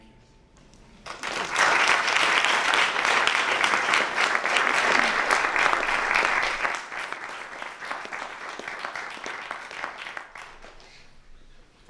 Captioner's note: applause